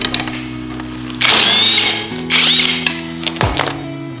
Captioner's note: music and wrench motor whirring sound